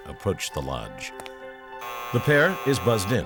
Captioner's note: buzzing